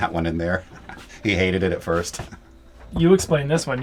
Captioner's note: laughs